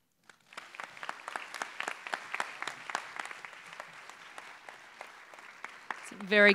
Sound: applause

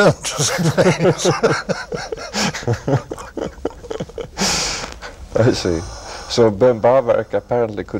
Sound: laughter

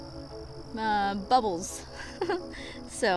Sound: laughs

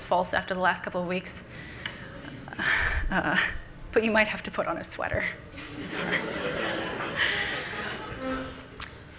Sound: everyone laughs

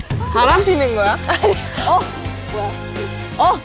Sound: gasps

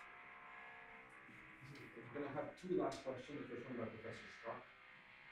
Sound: voiceover

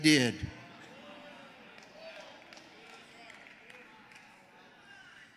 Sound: congregation cheering

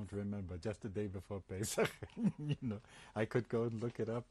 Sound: laughs

